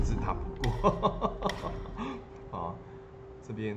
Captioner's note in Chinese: 笑聲